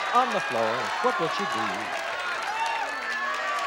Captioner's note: audience shouting